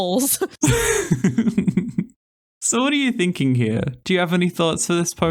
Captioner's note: laugh